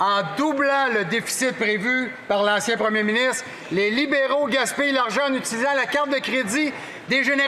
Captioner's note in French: voix de l'interprète